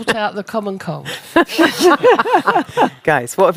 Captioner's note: laughing